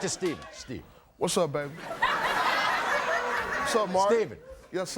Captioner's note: crowd laughing